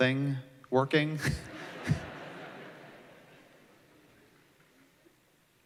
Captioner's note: laughter